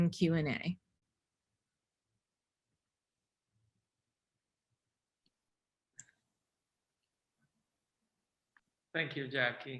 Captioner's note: silence